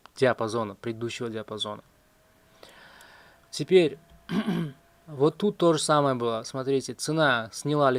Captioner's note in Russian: откашливается